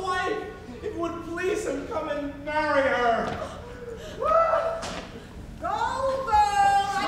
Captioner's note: sobs